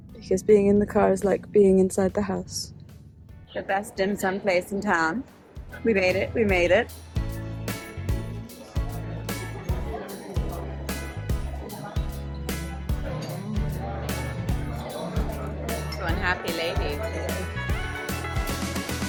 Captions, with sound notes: because being in the car is like being inside the house. The best dim sum place in town. We made it, we made it. (cheerful holiday music) (crowd murmuring) One happy lady.